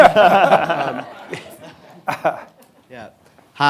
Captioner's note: people laughing